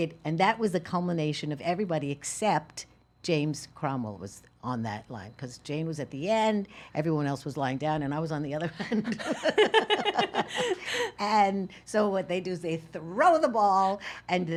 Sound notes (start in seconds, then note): 8.9 laughing